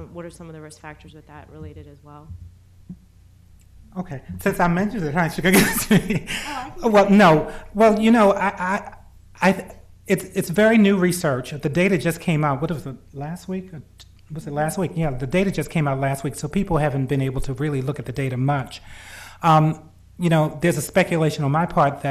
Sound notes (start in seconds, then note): 5.4 laughs